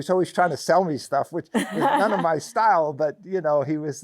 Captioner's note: laughs